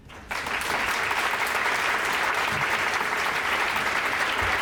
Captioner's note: applause